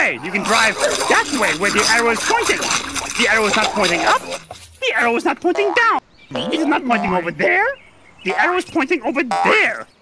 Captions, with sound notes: You can drive that way, Where the arrow is pointing. The arrow's not pointing up, The arrow's not pointing down. (FROG CROAK) - It is not pointing over there The arrow's pointing over there.